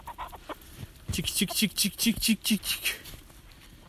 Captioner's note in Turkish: tavukları çağırma sesi